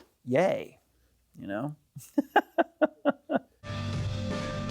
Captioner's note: laughs